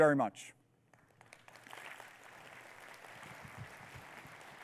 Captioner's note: audience clapping